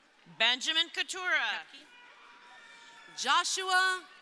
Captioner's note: crowd cheering